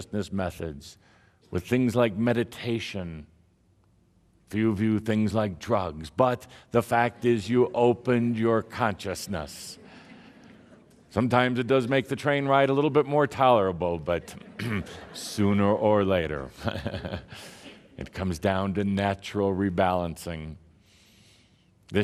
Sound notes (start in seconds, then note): 14.1 laughter; 16.6 Tobias chuckles